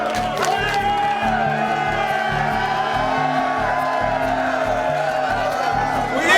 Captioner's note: cheers